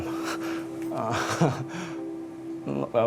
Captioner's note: laughter